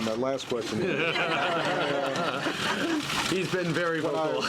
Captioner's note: laughter